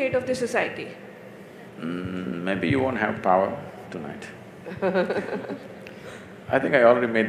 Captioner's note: Barkha Dutt Laughs